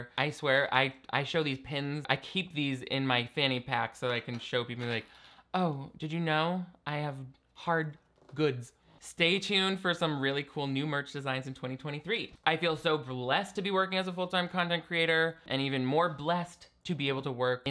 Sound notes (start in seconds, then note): none